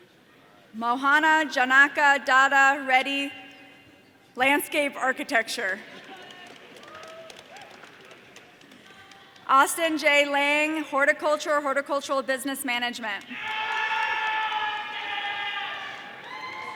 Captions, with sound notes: Mohana Janaka Datta Reddy, landscape architecture. (audience applause) Austin J. Lang, horticulture horticultural business management. (audience cheering)